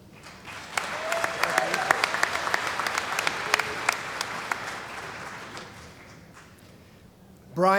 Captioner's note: cheering & Applause